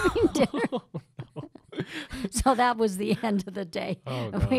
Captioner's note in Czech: Smích